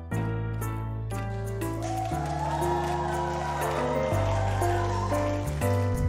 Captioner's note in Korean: 환호 소리